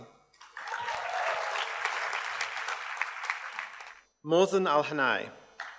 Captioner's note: audience cheers and applauds